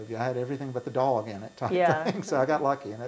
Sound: laughs

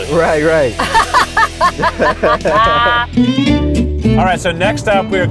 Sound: laughing

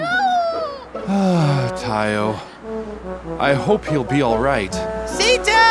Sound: sigh

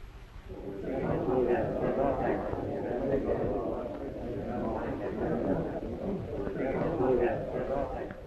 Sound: whispering

